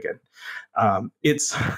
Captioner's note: laugh